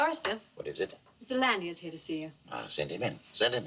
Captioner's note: none